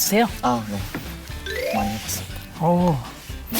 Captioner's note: confident